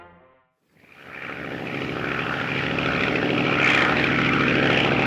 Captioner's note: airplane motor whirring